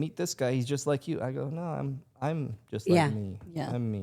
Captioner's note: Stephanie and Elyse laughing